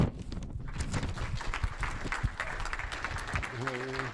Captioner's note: applause